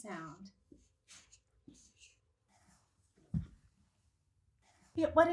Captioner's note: marker squeaks on whiteboard